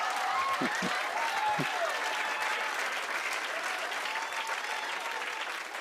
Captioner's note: laughter; cheers and applause